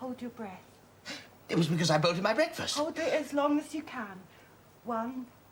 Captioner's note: SANDY, exhaling